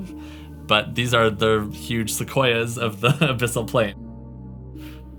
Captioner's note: laughs